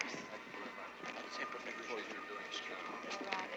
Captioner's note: all chattering